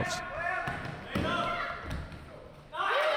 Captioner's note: basketball dribbles; sneakers scuffing; cheering